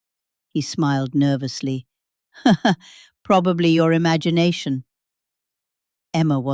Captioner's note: laughs